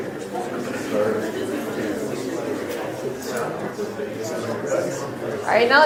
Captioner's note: audience chattering